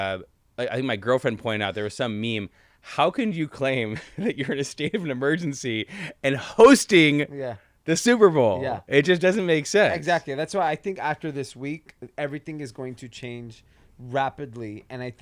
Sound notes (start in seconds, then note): 3.9 giggles